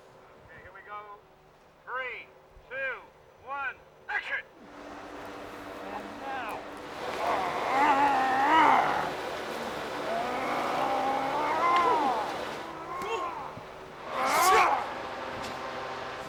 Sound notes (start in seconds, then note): 7.1 snarls